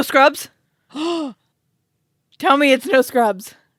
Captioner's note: gasps